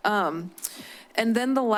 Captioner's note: clicks tongue